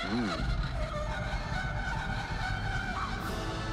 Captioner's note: scraping noise continues